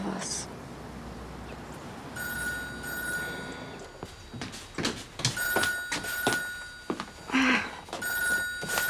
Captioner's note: telephone ringing